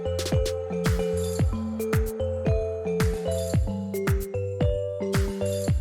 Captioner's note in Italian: Applauso